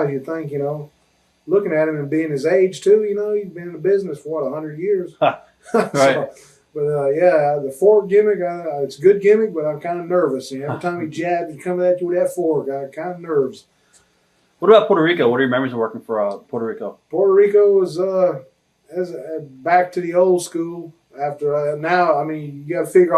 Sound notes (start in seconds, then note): 5.6 chuckles